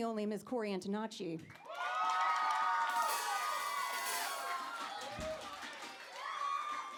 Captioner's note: applause